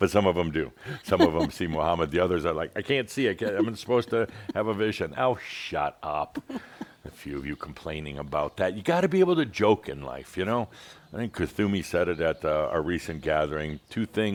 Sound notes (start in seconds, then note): 5.7 continues chuckling